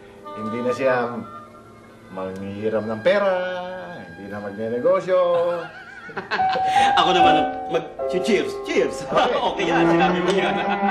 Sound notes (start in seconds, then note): 5.3 laughs